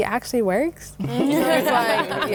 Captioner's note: laughter